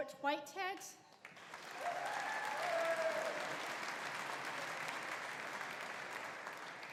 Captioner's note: audience applauding; audience cheering